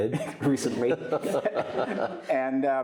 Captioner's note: all laughing